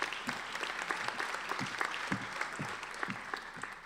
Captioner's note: applauding